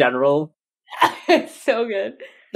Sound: laughing

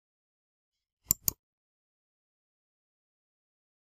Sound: click

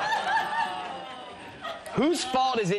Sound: audience exclaiming

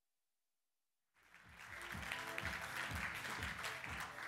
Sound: applause

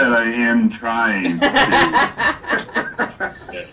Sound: laughs

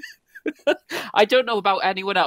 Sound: laughs

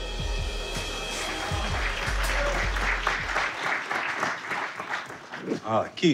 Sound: cheering, applauding

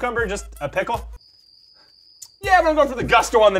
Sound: crickets

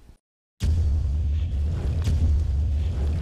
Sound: banging

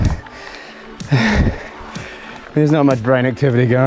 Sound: pants

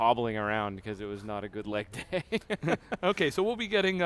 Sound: laughs

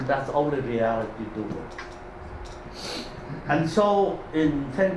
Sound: faintly speaking

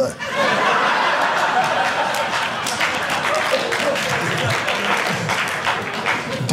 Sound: audience laughing

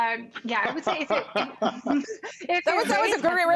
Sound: laughter

